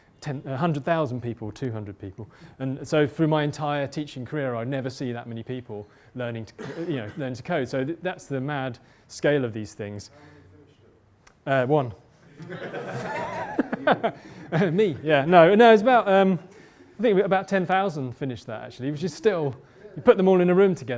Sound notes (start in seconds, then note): 10.2 voiceover; 12.3 laughter